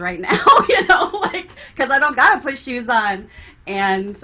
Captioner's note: laughs